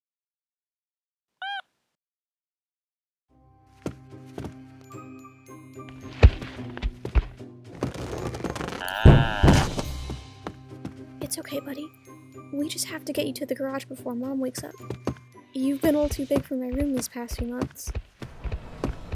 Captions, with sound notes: (Egg beeps cutely again:D) (Egg makes a distressed yelp) It's okay, buddy. We just have to get you to the garage before Mom wakes up. You've been a little too big for my room these past few months.